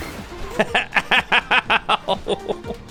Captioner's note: laughs